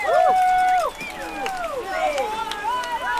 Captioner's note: cheering